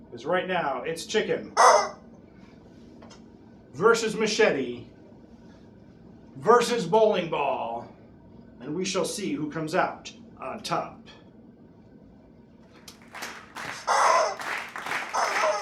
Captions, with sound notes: Because right now it's chicken (squawk) versus machete, versus bowling ball and we shall see who comes out on top. (crowd applauds)